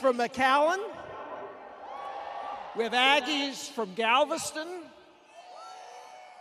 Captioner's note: cheers